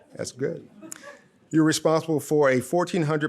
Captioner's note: audience laughs